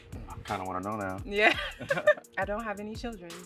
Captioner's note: laughs